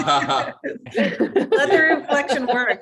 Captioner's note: laughing